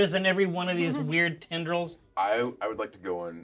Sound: speaker chuckles

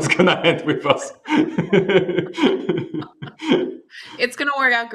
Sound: laughter

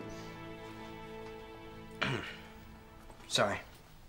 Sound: belching quietly

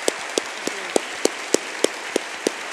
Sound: applause

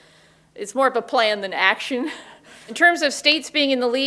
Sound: laughs

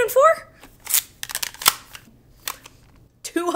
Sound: calculator clicking

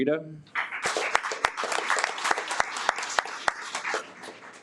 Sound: audience applauds

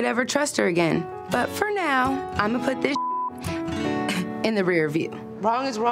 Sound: beep

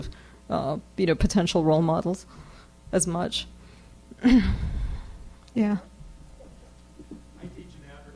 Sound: clears throat

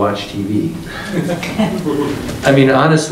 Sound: group laughing

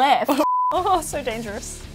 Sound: beep

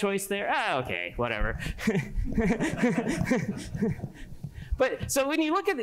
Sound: laughter

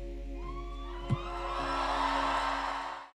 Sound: crowd cheering

